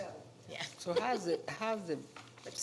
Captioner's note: giggles